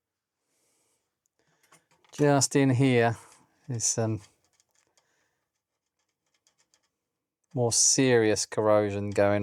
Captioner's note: silence